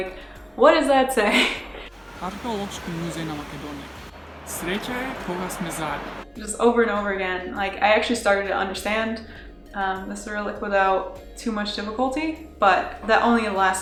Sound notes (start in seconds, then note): 3.1 reading Macedonian out loud